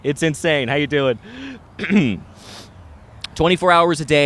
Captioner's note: clears throat